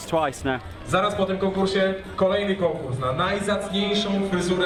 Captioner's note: man announcing, foreign language